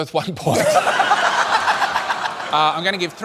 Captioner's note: laughter